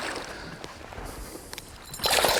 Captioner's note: splash; splash